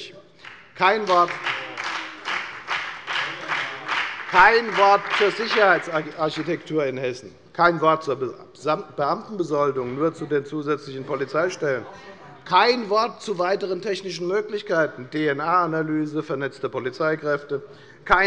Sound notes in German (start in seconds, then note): 0.4 Beifall bei der FDP und bei Abgeordneten der SPD